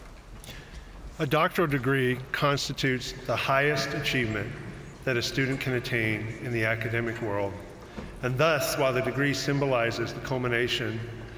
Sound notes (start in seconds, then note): none